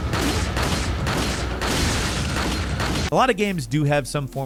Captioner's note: dramatic music; gun shooting